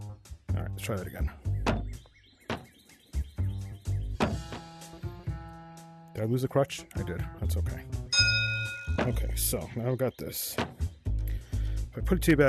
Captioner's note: ding